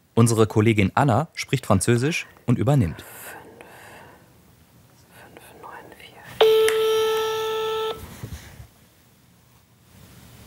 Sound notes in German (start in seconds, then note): 6.4 Freizeichen